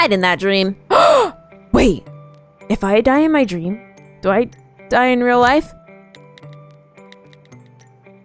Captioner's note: gasp